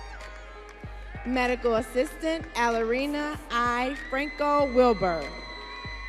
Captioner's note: audience cheering